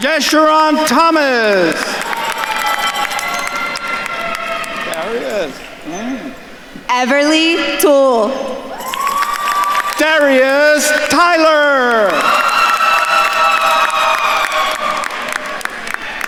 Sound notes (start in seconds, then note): 0.0 attendees cheering and applauding; 2.2 attendees cheering and applauding; 9.0 attendees cheering and applauding; 12.4 attendees cheering and applauding